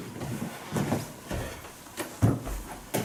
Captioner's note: heavy breathing